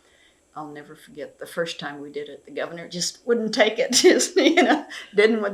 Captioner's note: laughs